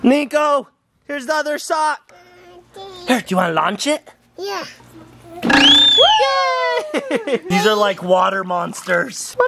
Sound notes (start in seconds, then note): 5.5 whistle blows; 5.6 cheering